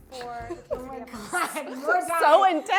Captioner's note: laughing